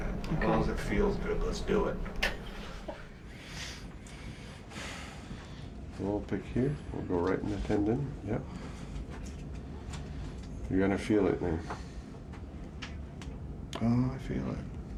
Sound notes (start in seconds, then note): 2.6 laughing